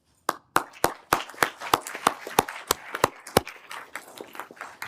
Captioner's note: everyone applauding